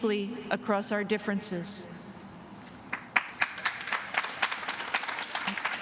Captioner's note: applause